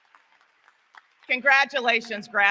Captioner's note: applause; cheering